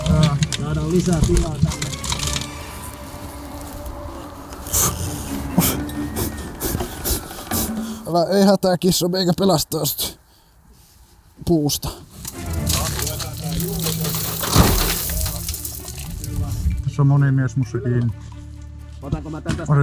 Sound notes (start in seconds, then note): 4.4 snorts